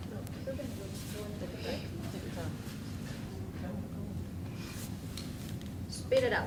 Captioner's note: audience mutters quietly amongst themselves